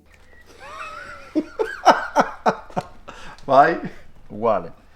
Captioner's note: laughing